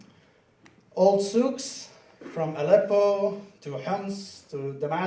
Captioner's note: speaking foreign language